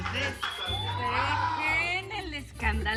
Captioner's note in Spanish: Aplausos; Silbidos